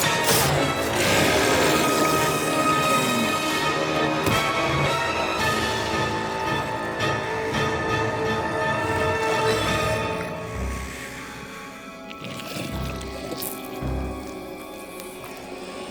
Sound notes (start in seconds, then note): 0.0 growling